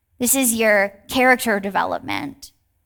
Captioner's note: none